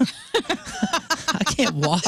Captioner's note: laughing